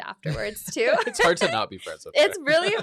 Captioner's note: both laugh